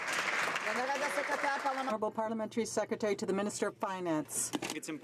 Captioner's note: some Applause